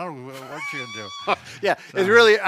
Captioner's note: laughs